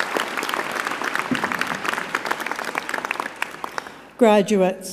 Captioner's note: applause